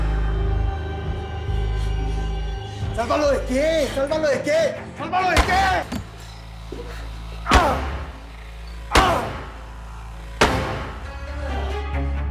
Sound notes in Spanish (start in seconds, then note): 5.3 Golpes; 5.6 Gritos